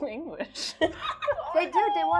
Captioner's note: laughing